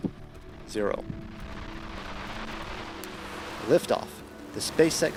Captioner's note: spaceship launching